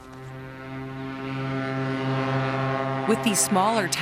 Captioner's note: plane engine roars